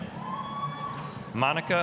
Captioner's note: applause, cheering